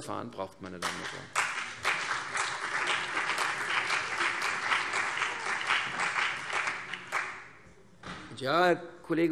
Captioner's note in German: Beifall CDU und BÜNDNIS 90/DIE GRÜNEN